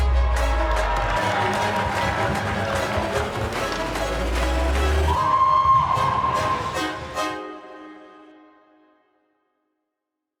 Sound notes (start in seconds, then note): 0.0 people cheering; 0.0 dramatic music